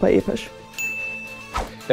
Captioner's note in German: Klingeln